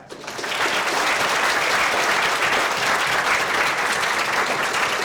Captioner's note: audience applauds loudly